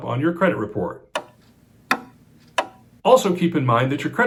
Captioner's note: clock ticking